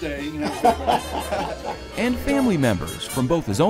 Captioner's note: crowd laughing